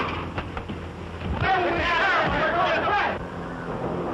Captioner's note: passengers clamoring